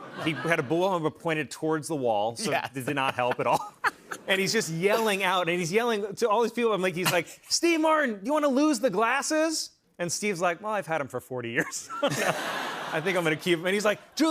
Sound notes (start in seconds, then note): 11.6 laughter